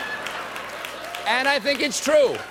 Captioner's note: laughter